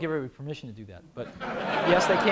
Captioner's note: laughter